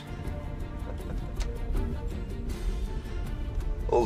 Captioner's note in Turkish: Gülüyor